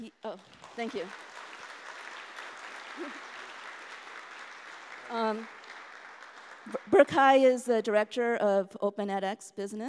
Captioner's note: applause